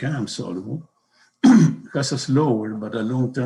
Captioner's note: coughs